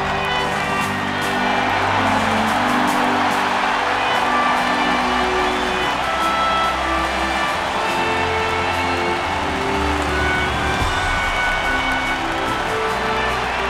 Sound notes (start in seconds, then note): 0.0 cheering and applause